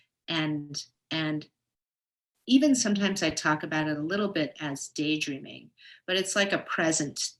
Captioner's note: none